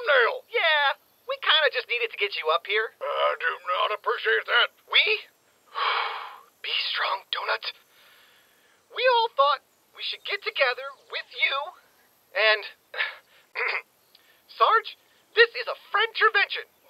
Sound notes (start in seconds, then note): 5.7 deep breath; 6.2 whispers to self; 13.5 clears throat